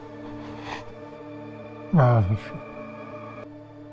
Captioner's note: sniffling